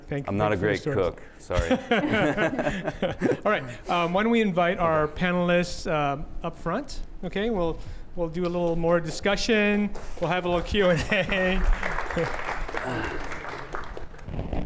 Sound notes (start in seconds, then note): 1.5 laughter; 10.5 applause